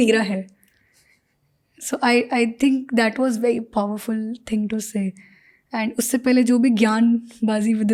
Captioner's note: speaks in Hindi